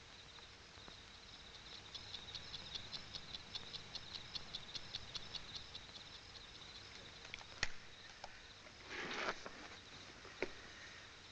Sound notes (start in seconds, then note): 1.8 ticking; 5.3 ticking stops